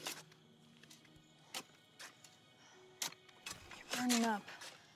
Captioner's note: shovels scraping